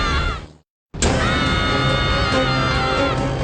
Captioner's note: screaming